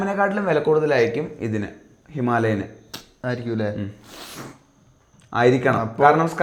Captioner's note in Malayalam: ചീറ്റുന്നു